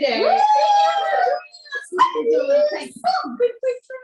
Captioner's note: cheers